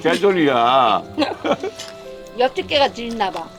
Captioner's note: both laughing